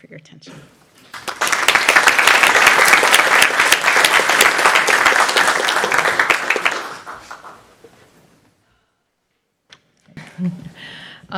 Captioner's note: applause